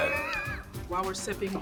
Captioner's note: laughing